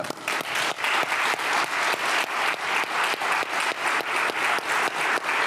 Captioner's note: everyone applauding